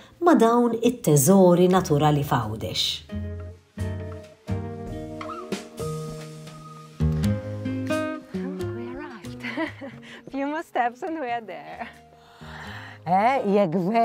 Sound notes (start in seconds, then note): 4.1 peaceful music; 9.3 chuckles